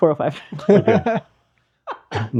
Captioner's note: laughing